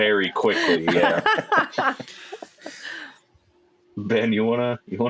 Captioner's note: laughter